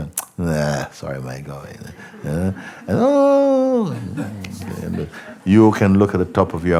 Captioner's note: sound of falling